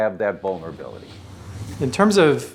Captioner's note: whooshing